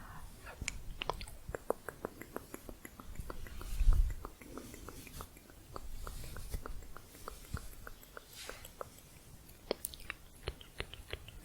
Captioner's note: tongue clicking